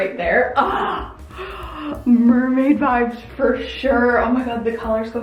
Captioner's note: gasps